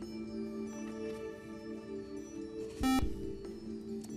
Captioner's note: buzzer